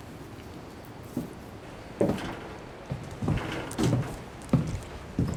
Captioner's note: footsteps thumping